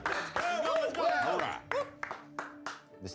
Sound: cheering

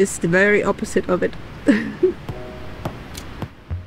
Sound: laughs; upbeat music

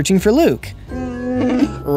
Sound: Chewbacca growls

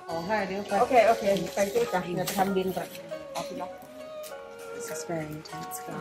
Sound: speaks Thai

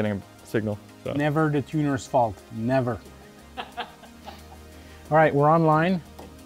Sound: team member laughing

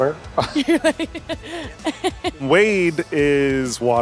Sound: laughs

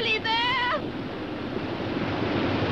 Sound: water roars

